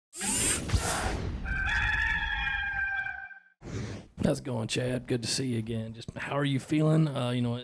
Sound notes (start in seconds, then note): 1.4 gamecock calling